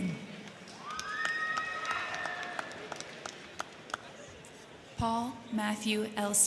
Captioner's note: crowd clapping; crowd cheering